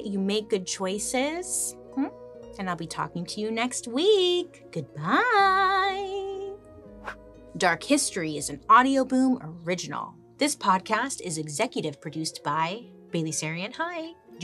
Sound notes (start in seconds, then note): 7.0 hair swishes